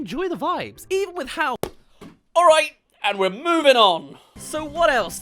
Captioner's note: ball hit